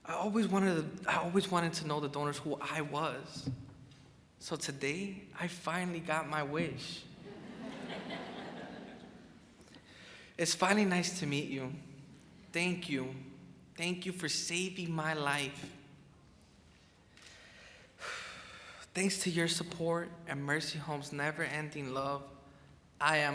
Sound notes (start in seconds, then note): 7.2 crowd chuckles; 18.2 sighs